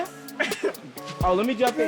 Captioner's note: laughing